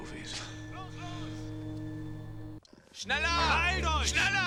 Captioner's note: speaking german